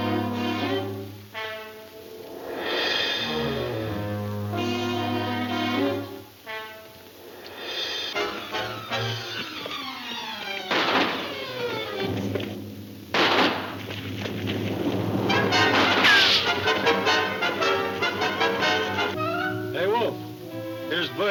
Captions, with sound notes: (thrilling music) (gun firing) - Hey, Wolf, here's Butch.